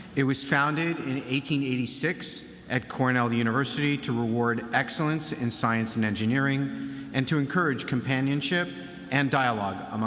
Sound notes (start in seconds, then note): none